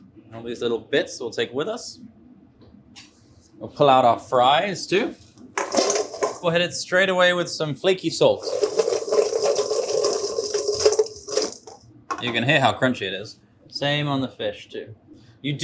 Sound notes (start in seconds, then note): 5.6 fries plop; 8.3 fries rattle